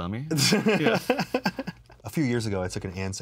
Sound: laughs

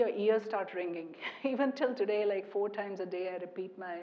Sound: laugh

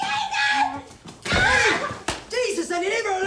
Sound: screaming

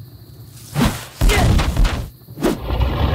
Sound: badonk

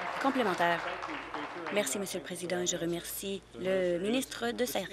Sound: applause

